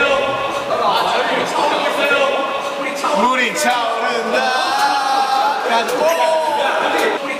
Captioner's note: water filling up